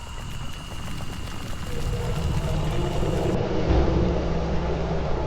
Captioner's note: volcano rumbling